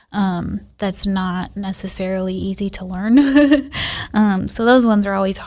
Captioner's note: laughs